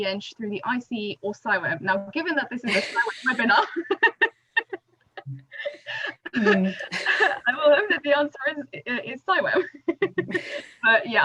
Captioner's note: laughter